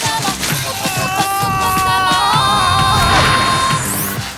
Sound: Tobor yelling angrily

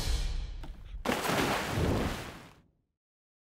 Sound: splash

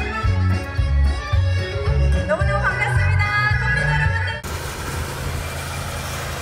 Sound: speaking in foreign language

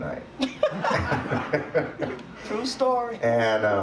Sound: and audience laughs

